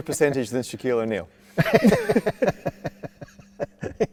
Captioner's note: both laugh